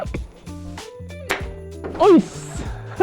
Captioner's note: gunshot pops; speaks Japanese